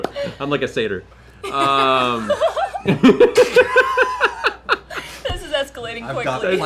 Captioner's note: laughter